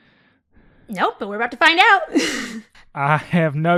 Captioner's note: laughs